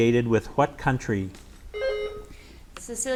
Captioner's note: buzzer beeps